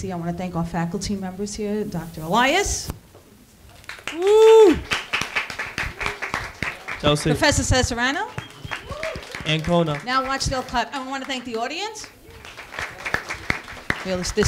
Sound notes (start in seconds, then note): 4.1 students applauding; 12.6 students applauding